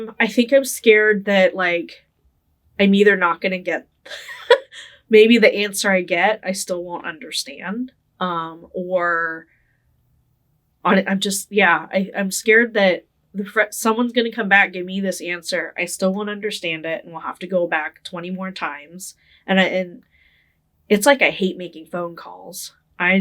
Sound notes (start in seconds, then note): 4.1 laughing